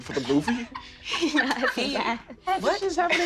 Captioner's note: quiet laughter